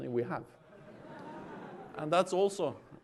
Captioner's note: laughter